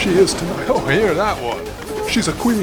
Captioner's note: horn blares